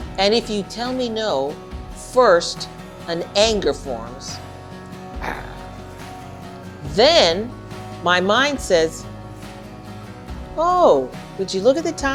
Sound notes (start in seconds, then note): 5.2 growling